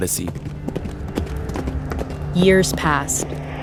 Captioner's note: horse hooves clomping